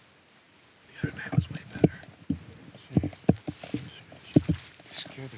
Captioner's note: whispers